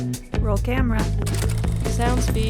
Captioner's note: camera whirs